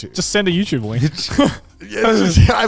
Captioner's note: laughing